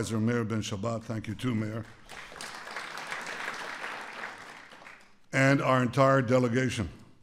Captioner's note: applause